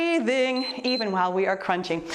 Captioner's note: timer beeps